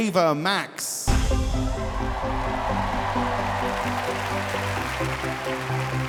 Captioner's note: upbeat music; audience applauding